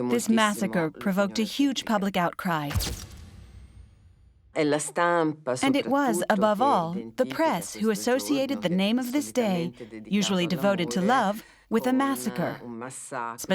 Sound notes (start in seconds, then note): 2.7 camera flashing